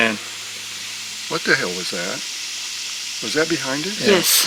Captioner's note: crashing in the distance